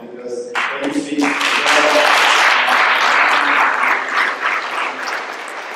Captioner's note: applause